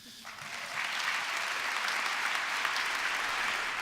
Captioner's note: applause